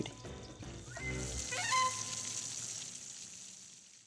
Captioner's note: water spraying